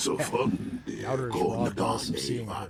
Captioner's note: speaking foreign language